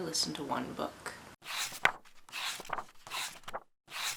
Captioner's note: pages turning